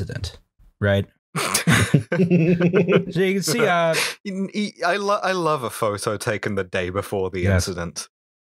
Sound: laughter

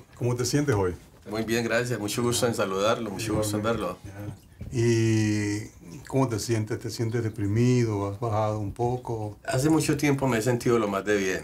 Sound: speaking Spanish

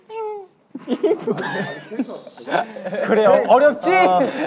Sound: group laughter

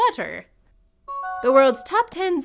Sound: new message chime

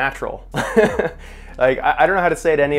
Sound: laughing

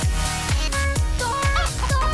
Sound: clucking

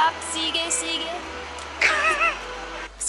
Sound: laughs

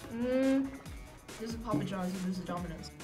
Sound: none

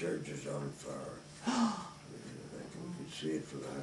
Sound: gasp

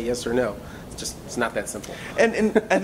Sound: laughs

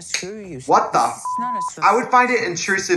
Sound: Katya laughs; beep

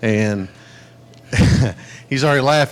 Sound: laughing

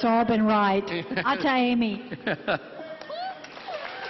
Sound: crowd cheering

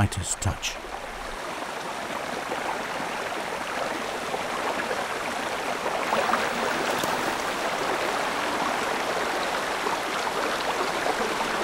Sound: running water

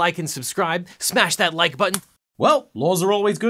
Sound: click

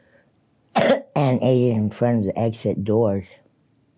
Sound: coughs

